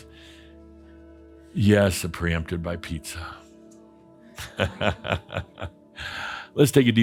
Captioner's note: chuckles